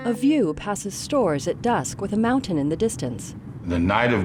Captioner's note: roadway passing